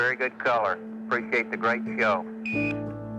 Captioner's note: device beeps